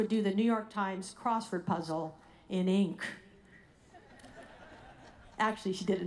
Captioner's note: audience laughing